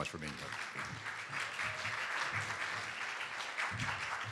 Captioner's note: applause